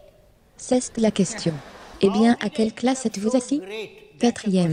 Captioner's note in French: rire en public